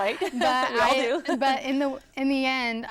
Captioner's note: laughter